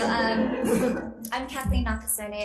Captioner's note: people laughing